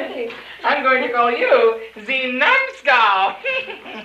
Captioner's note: bad accent